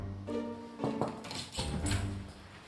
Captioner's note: knocks on door